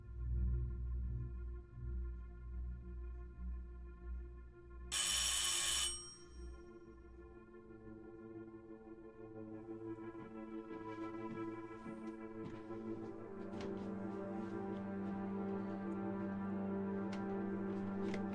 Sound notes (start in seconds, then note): 4.9 bell rings